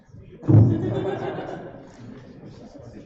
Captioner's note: laughter